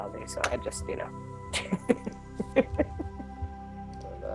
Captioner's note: laughs